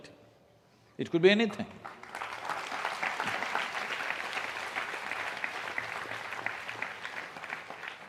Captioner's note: applause